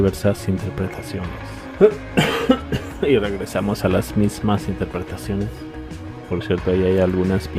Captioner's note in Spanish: risas